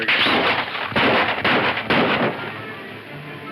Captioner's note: gunshots